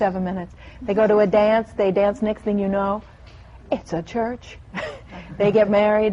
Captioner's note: laughter